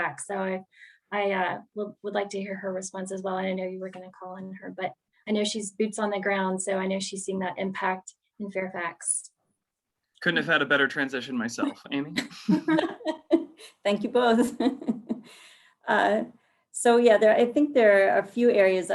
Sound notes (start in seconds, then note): 12.2 laugh; 12.2 laughing